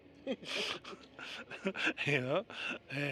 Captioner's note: laughter